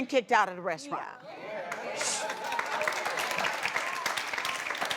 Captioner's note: applause